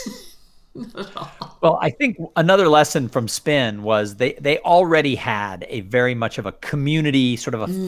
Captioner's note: laughter